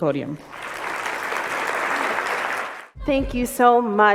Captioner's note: applause